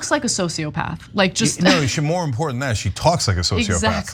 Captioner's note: laugh